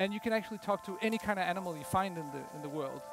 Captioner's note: howling